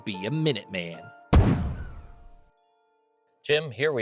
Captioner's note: musket firing